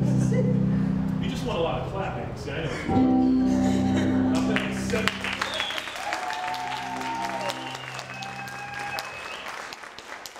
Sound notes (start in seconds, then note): 3.5 laughing; 4.4 applauding and cheering